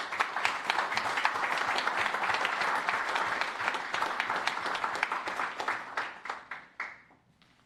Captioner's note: applause